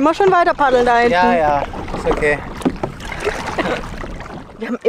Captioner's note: laughs